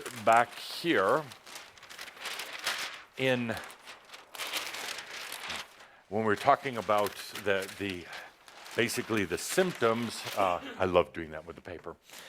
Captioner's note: is flipping the papers